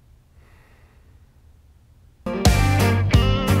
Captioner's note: sigh